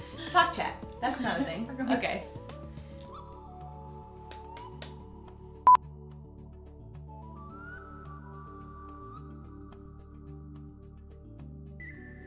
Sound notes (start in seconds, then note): 4.2 clapping; 5.6 beep; 7.5 relaxing music